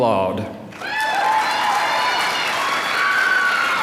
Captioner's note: applause